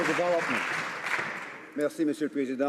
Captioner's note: some Applause